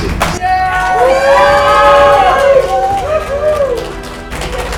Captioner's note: cheering